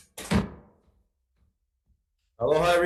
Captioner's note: gavel slamming